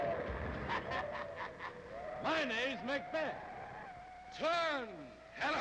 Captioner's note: laughs